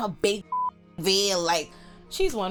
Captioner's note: beep